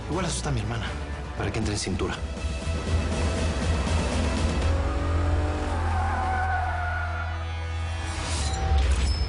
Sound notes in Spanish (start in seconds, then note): 3.3 Ruido del carro; 6.5 Chirrido de gomas